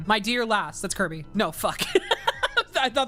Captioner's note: laughs